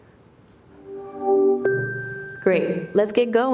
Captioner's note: Gemini chiming